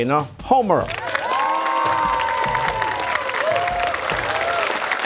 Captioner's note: cheers and applause